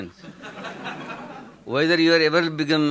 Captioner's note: audience laughing